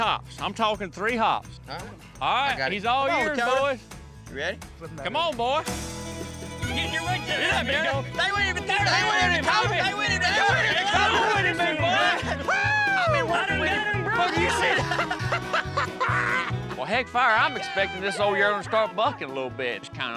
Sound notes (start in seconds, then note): 8.7 all laughing, cheering; 14.4 laughter